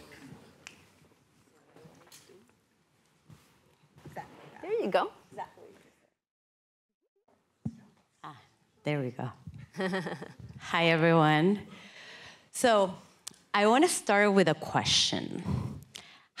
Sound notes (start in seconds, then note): 9.7 chuckling